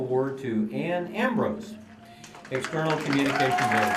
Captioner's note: applause